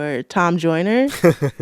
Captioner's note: laughter